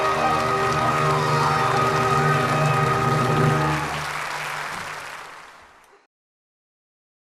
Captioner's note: applause